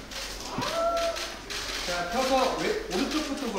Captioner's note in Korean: 우와아